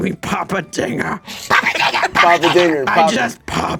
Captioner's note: screeches